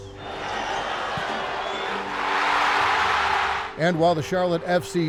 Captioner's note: crowd cheering